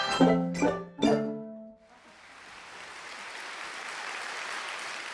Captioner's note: applause